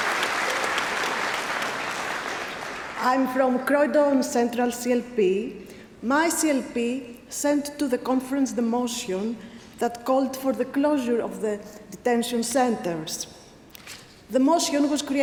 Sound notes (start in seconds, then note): 3.2 applause